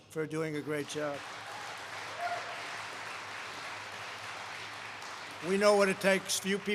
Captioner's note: applause